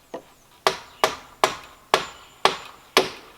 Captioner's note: hammering